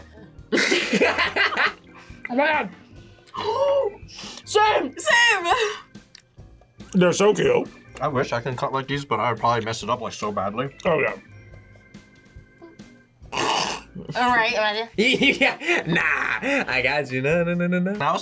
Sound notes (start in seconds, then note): 0.5 laughs; 3.2 gasps; 15.0 snickers